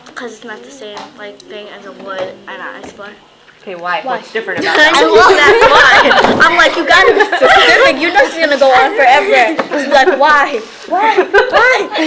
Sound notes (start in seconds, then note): 4.7 laughter